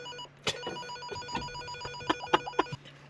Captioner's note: radio beeps; laughs